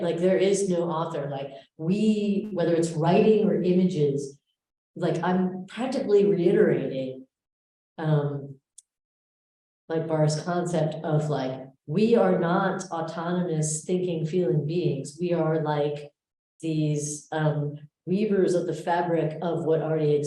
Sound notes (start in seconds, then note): none